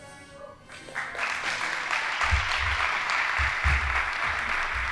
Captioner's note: audience applauding